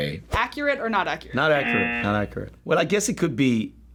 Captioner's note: buzzer